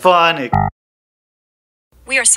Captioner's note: error sound